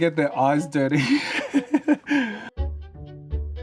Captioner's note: laughs